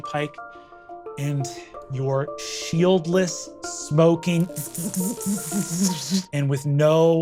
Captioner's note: vocalizes crackling